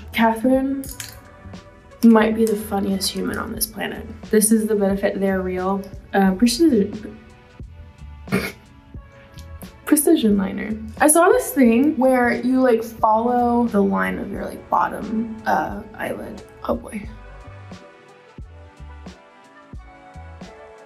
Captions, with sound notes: Catherine might be the funniest human on this planet. This is the Benefit They're Real! Precision... [Madelyn chuckles] Precision liner. I saw this thing where you follow the line of your bottom eyelid, oh boy. [relaxing lo-fi music]